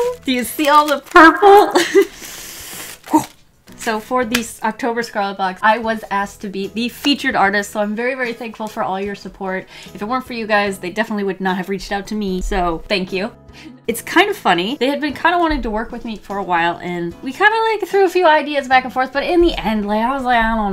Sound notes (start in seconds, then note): 2.1 deep inhale